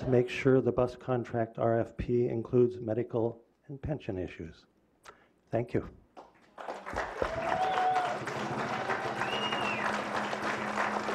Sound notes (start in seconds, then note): 7.9 clapping